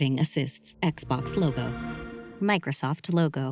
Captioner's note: xbox sound